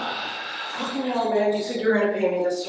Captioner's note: detective groans